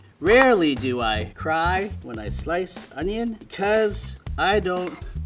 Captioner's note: none